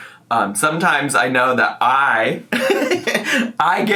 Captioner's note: laughs